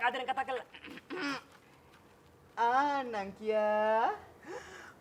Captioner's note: clears throat